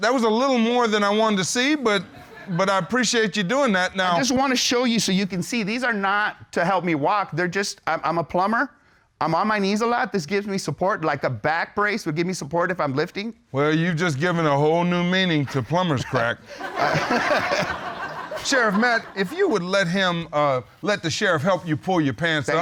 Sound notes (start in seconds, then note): 16.1 all laughing